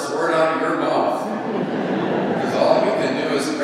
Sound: laughing

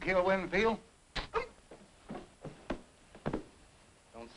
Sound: Andy grunts; fist thuds

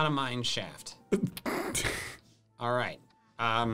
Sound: laughing

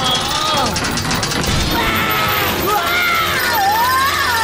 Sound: grunting; screaming; laughing

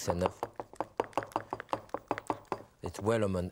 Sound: rubber spatula clanking against glass dish

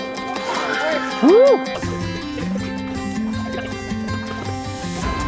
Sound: upbeat rock music; cheers

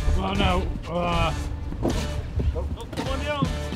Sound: grunting

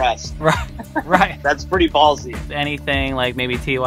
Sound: laughs

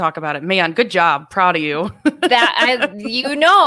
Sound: laughs

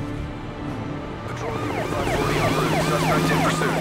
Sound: sirens wailing

